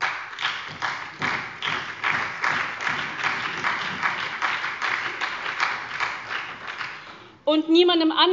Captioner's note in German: Beifall bei Abgeordneten der SPD und des BÜNDNISSES 90/DIE GRÜNEN